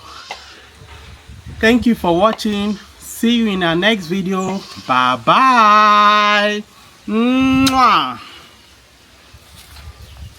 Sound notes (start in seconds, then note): 7.6 kisses